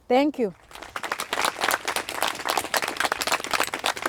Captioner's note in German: Applaus